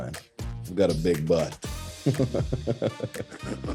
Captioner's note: laughing; hip hop music